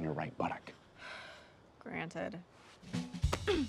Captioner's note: sighs